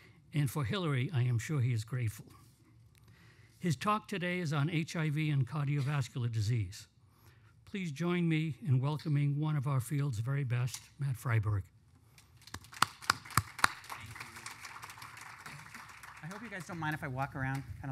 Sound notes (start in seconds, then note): 12.4 applause